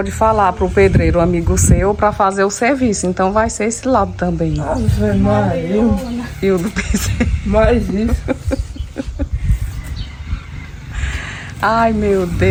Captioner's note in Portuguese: risadas